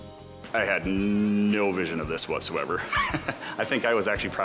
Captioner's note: laughs